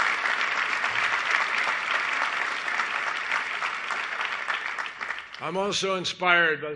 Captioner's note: applause